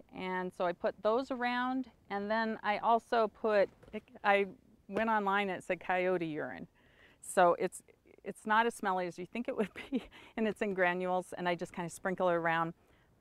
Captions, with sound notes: And so I put those around. And then I also put, I went online, and it said coyote urine. It's not as smelly as you think it would be. (chuckles) And it's in granules, and I just kind of sprinkle it around.